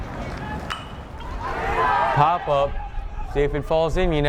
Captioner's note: bat pings